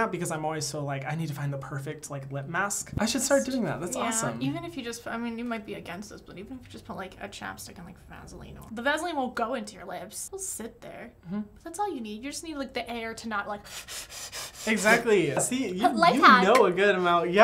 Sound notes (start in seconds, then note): 13.6 blowing hard